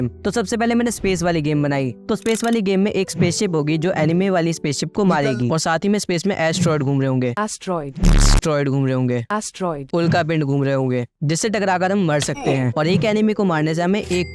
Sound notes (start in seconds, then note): 8.0 beep